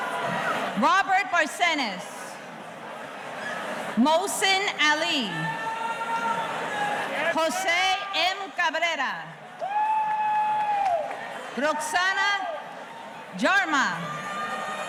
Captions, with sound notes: Robert Barsenis. Mosen Ali. Jose M. Cabrera. (audience cheering) Roxanna Jarma.